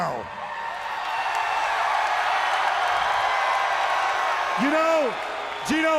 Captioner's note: crowd cheering